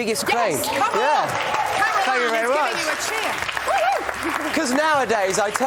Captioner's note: cheers and applause